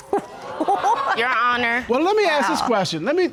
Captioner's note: all laughing